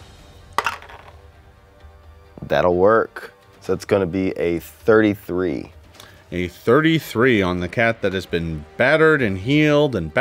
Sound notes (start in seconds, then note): 0.6 dice rattles